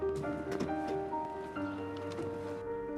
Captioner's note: suitcase wheels rolling